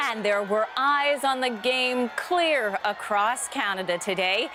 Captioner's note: cheering; crowd Noise